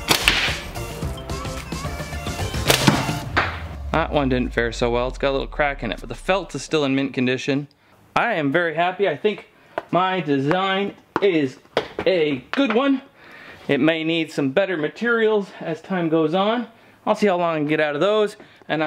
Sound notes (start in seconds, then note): 0.1 thwack